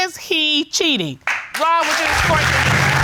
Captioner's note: applause; audience applauding